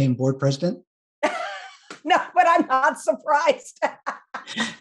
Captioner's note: laughs